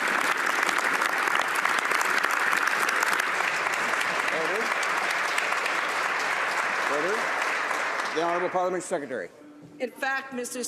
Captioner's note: some Applause